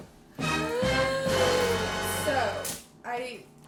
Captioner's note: dramatic music; gasps